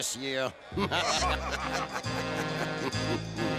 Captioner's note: laughter